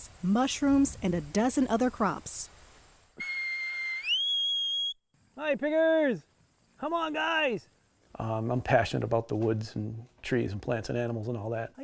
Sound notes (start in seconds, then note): 3.2 high-pitched whistle